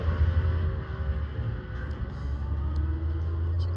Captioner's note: engine roaring